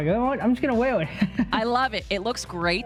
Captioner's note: laughs